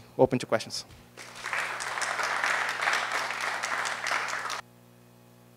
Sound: applause

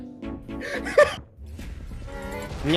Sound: laugh

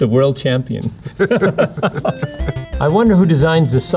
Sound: both laughing

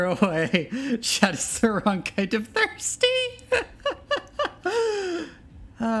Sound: loses herself laughing

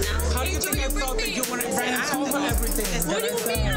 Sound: people arguing

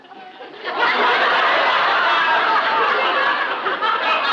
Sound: laughter

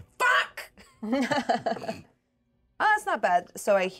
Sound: speaker laughs

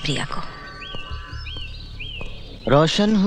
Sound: birds Chirping

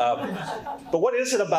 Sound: participants laughing

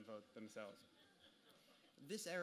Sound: audience laughter

